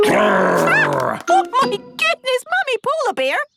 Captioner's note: loud growl